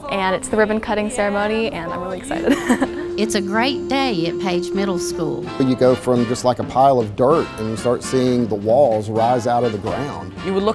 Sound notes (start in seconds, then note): 2.2 laughs